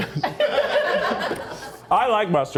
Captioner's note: crew chuckles